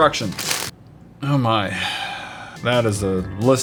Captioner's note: sigh